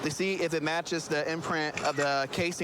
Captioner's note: camera app clicks